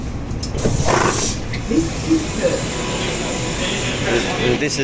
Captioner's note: doors open